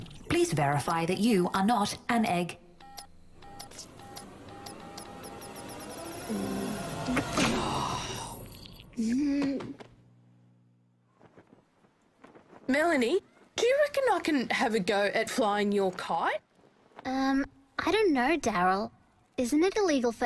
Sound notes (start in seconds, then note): 2.8 beeping, slowly at first then speeding up; 8.7 dejected groan